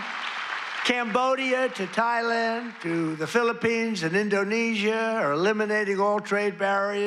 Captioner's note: applause